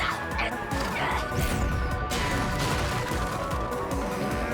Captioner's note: sounds of attacking